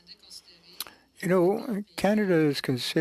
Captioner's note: speaking French